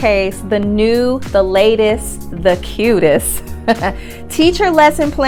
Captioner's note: laughs